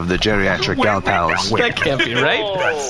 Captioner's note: laughing